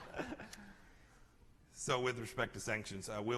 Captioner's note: laughter